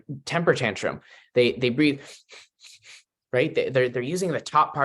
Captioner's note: breathes sharply